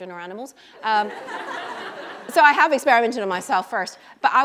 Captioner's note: laughter